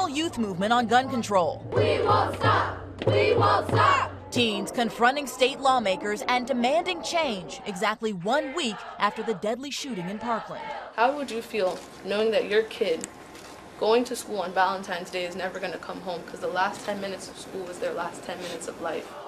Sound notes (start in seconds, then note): 7.8 chanting